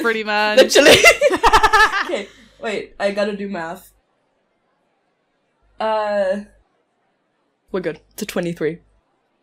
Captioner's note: laughter